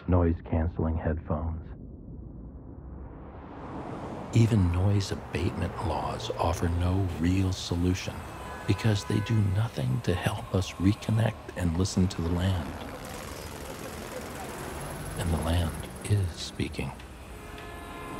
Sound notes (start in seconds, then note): 13.4 helicopter rattling